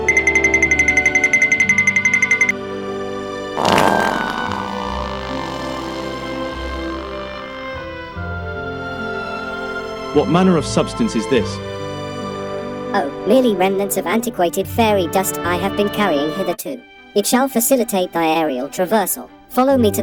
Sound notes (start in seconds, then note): 0.1 cartoon tip-toe sound; 3.5 loud fart